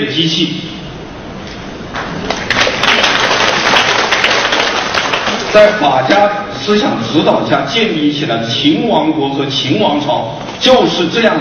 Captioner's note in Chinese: 掌声